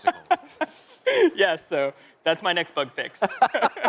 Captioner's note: laughter